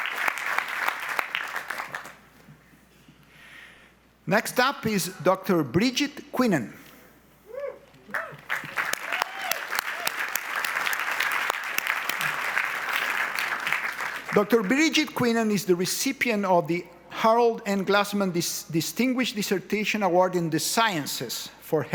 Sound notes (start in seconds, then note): 8.1 audience applauds